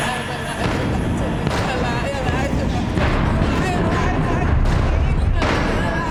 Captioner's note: intense dramatic music; chanting; bed thudding